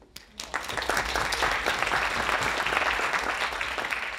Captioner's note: audience applauding